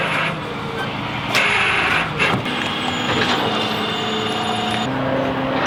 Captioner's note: machine operating